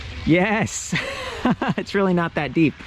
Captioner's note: laughs